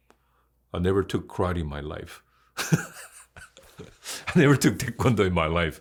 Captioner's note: laughs